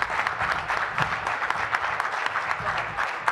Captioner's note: applause